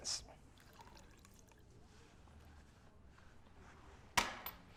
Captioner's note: whiskey dribbling